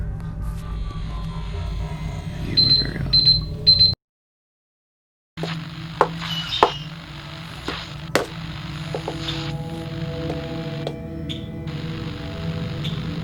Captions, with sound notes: You are very odd. [beeping] [songbird]